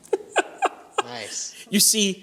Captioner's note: laughter